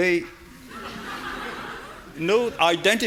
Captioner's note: audience laughing